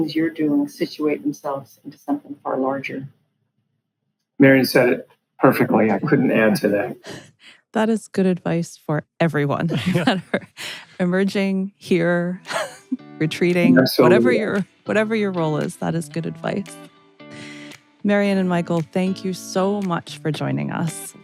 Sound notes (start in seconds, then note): 5.5 laughing; 17.3 upbeat music